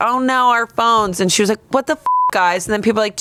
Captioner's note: beep